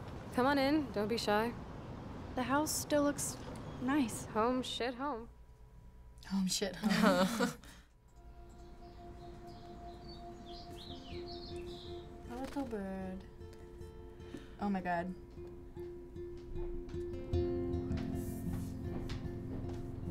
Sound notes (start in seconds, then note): 6.8 chuckle; 15.6 gentle music